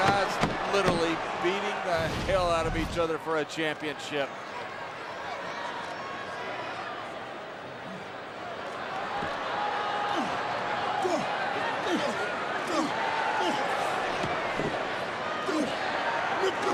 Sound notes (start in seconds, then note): none